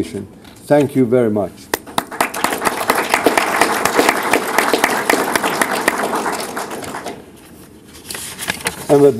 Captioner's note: applause